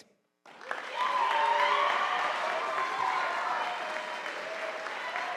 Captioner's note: audience applauding